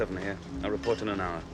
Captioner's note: glasses clinking